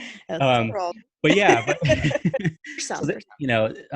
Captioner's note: laughing; both laughing